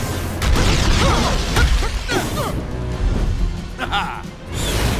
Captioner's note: wincing; sinister chuckling